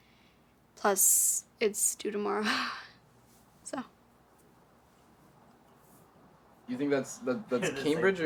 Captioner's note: chuckles